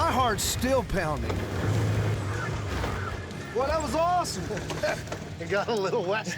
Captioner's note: motor comes to a stop